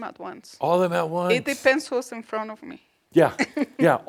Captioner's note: she giggles